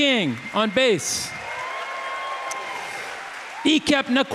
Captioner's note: audience applauding; audience cheering